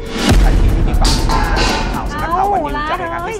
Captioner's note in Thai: เสียงของตก